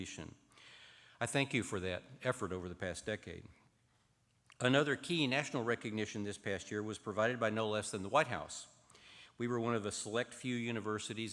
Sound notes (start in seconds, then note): none